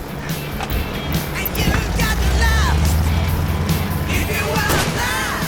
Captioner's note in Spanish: Ruido de la avioneta; Disparo